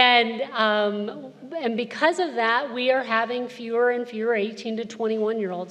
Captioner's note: none